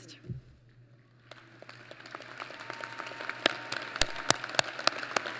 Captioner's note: applause